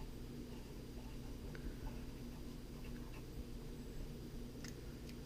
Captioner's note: pen writing on paper